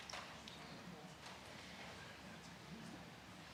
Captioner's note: speaking French